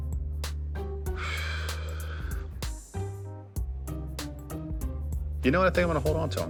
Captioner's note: sighs